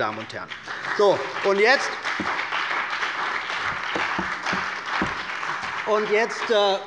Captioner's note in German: Beifall bei der CDU und dem BÜNDNIS 90/DIE GRÜNEN